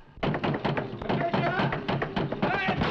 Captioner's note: door thudding